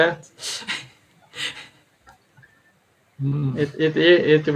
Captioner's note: laughs